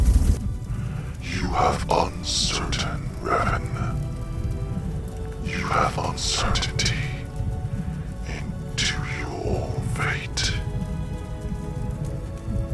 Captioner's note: voice echoed